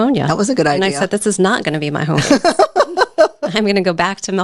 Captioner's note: laughing